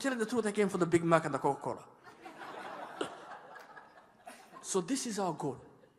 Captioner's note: laughter